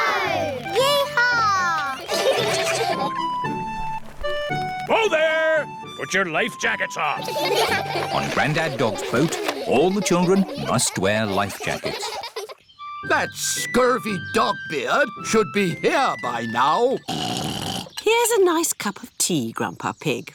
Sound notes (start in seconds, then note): 1.9 all giggle; 7.2 all giggle; 17.0 oinks